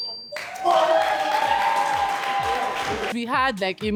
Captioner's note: cheering